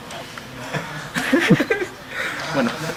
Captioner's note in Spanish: lloriqueo